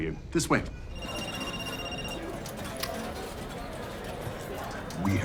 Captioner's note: phone ringing